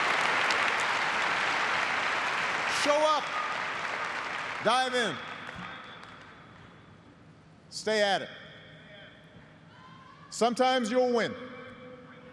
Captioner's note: cheers and applause